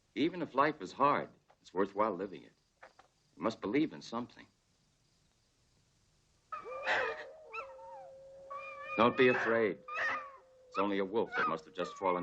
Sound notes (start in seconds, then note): 6.5 wolves howling; 6.5 wolves whimpering